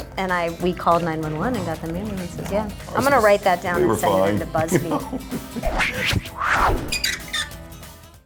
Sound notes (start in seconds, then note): 4.2 laughs; 5.6 whooshing electronic accents